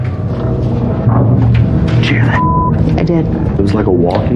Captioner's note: whwhisisperiringng